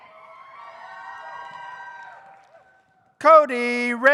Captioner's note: audience cheers